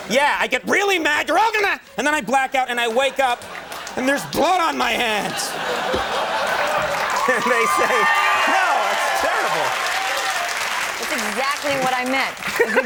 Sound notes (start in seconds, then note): 5.2 audience laughing; 9.6 audience applauding